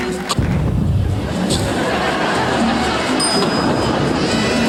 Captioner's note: audience laughing; fire whooshing; elevator dings